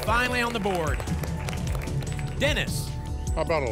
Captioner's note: applause